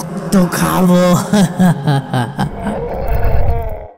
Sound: laughs

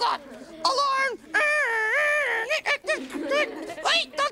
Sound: imitates an alarm

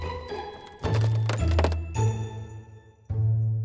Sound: wood creaking

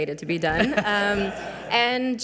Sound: audience laughing

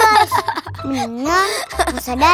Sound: laughing

